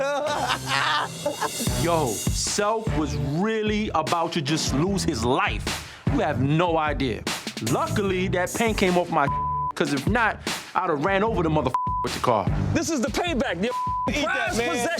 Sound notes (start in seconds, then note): 0.0 self laughing; 9.2 beep; 11.7 beep; 13.8 beep